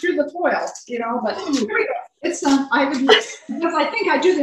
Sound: murmurs

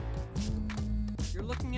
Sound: cell phone buzzing

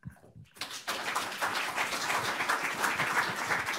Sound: audience applauds

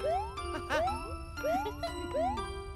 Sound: chuckles; giggles

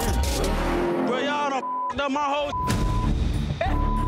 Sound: beep

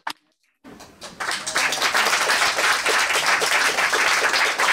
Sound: applause

